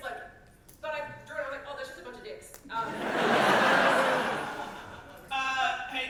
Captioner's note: audience laughter